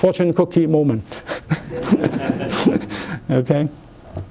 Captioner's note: laughter